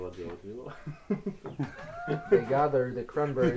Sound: people laughing

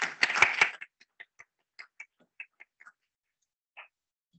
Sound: people clapping

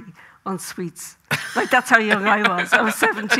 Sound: Graham laughing

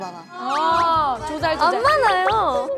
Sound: AHH of agreement

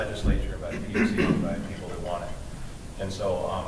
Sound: throat clearing

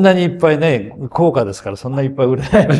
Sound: laughs

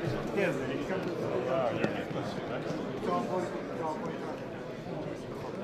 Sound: speaking foreign language

